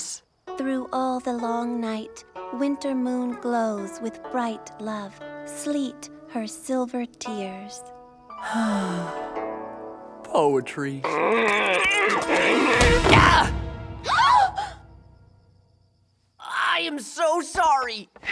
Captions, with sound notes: Through all the long night, winter moon glows with bright love. Sleet, her silver tears. [sighing] Poetry. Gah! [gasping] I am so sorry.